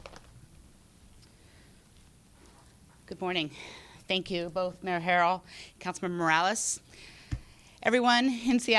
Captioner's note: applause